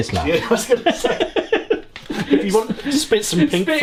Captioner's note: both laughing